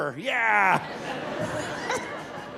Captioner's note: audience laughing; laughing